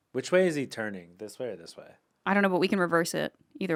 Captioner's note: none